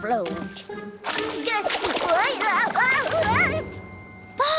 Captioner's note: losing balance shouts